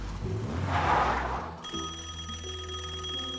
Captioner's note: tires screech; telephone rings